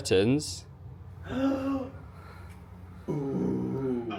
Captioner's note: gasps